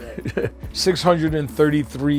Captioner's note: laughs